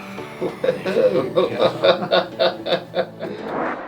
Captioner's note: laughs